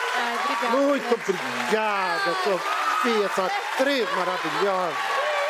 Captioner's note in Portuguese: aplausos